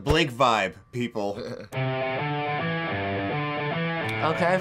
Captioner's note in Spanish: se ríe